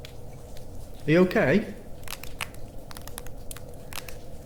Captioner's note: crack crack; bones crunching